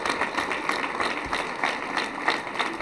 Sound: applause

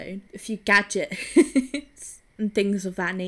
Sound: laughs

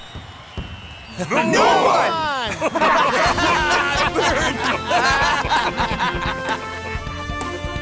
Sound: laughing

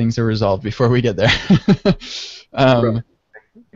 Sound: laughs

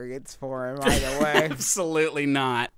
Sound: laughing

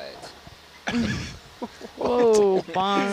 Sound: all laughing

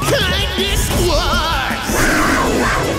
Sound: roaring

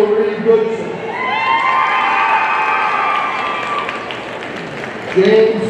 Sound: audience cheering

